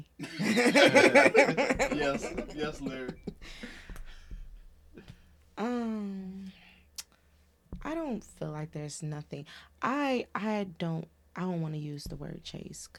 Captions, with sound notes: (Laughing) I don't feel like there's nothing. I don't wanna use the word chase.